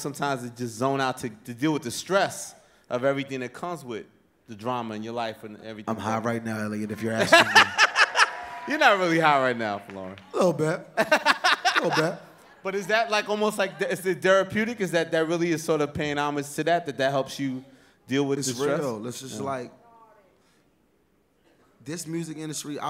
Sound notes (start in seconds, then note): 7.2 laughter; 7.7 audience cheering